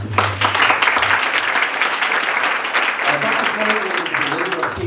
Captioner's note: audience applauds